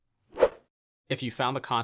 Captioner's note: graphic whooshing